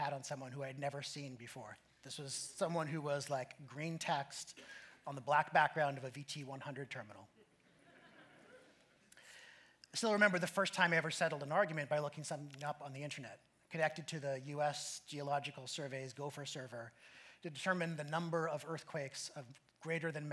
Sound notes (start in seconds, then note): 7.3 laughter